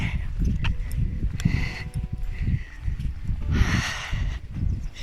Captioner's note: steps